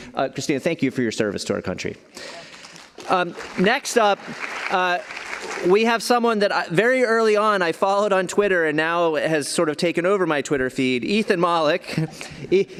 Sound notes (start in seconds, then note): 2.2 applause